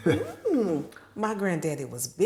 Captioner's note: laughing